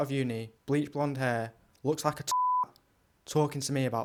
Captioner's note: beep